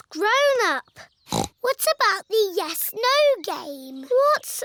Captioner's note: snorts